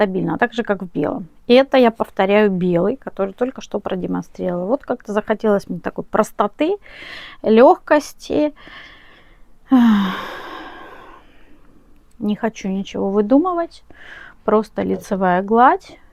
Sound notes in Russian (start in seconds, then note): 4.6 вздыхает